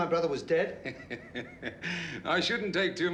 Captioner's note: laughing